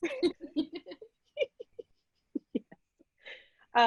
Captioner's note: laughing